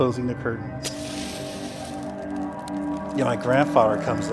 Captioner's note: fire crackling